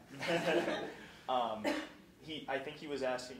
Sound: laughing

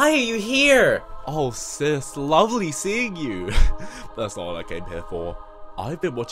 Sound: giggles

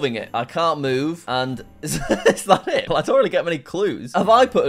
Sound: laughs

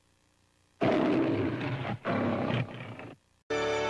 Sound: Leo the Lion roaring

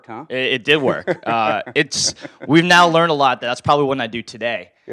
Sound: laugh

